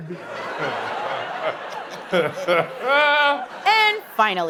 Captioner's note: laughing